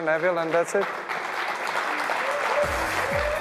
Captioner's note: applause